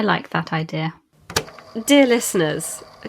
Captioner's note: tape recorder clicks on